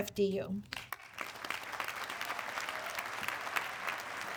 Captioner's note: audience clapping